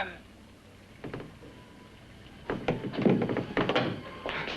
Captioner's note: creaking sound; scrambling footsteps; ominous music